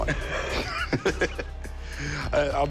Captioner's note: laughter